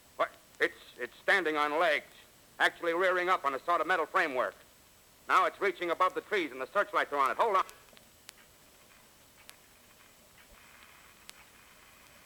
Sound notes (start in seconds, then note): 8.2 click; 9.0 static